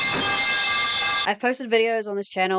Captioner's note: metal pipe sounds